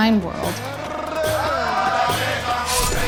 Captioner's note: men chanting